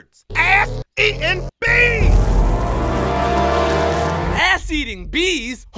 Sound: bees buzzing

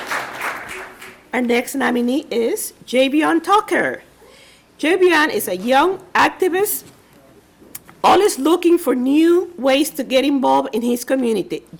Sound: applause

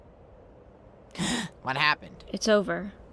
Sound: celestia gasps

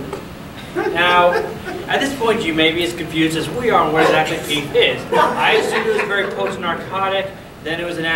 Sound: audience laughing

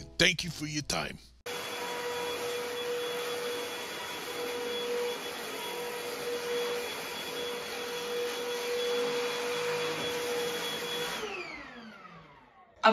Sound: vacuuming

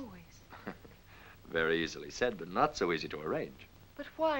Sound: chuckling

